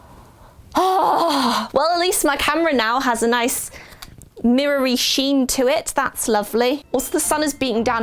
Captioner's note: sigh